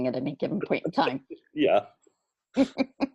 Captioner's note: laughs